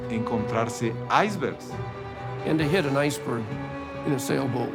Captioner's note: in English